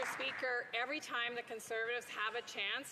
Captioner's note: some Applause